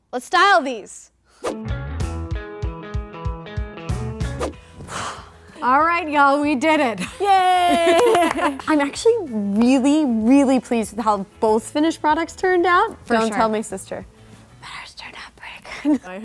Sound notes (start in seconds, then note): 1.6 joyful upbeat music; 4.7 sighing; 7.0 laughing; 7.8 clapping